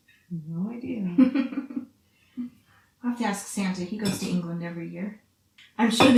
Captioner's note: laughs